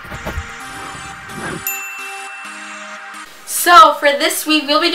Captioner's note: exciting music; chimes